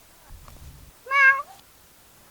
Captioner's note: meow